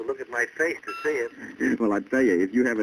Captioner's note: chuckles; on phone